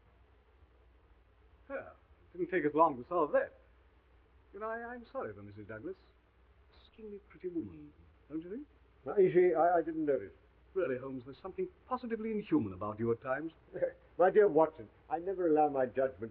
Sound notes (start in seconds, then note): 13.7 chuckles